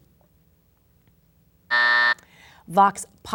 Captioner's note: buzzer sounds